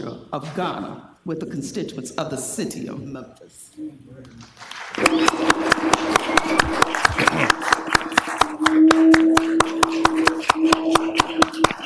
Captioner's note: applause